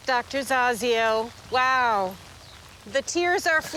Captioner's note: rain pattering